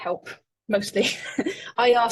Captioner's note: laughing